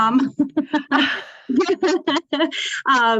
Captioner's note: laughter